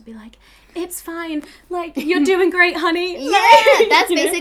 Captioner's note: laughs